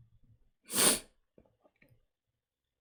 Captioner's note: sniffs